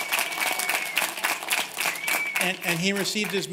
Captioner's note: cheers and applause